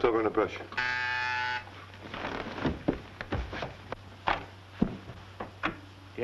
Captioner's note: buzzer ringing